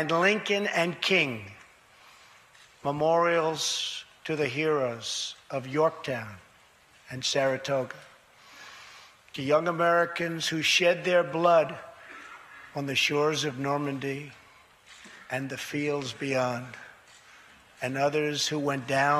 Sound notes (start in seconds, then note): none